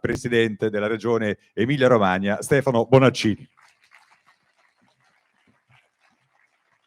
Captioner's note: applause